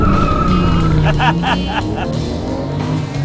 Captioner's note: laughing